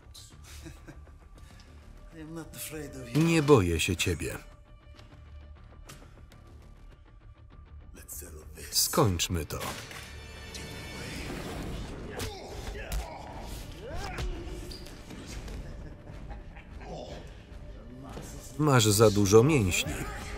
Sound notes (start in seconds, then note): 0.4 laughs; 12.1 punching; 15.1 laughs